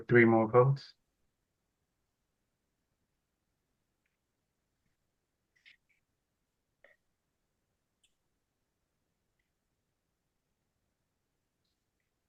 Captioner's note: pause